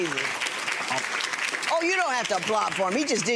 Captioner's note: applauding